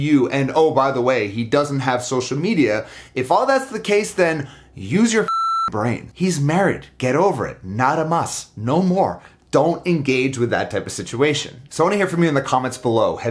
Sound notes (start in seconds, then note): 5.2 beep